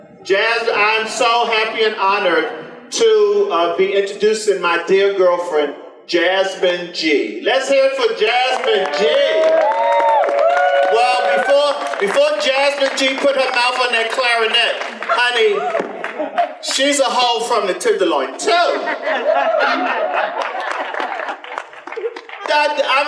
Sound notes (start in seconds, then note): 9.5 audience applause; 18.6 audience laughter